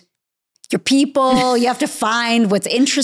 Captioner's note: chuckling